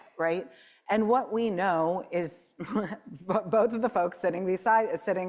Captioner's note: chuckles